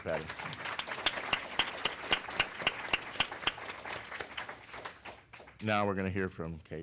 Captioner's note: applause